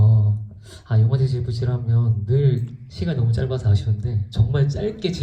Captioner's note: speaks in foreign language